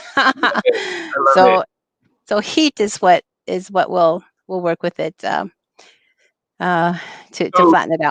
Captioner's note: laughter; laughter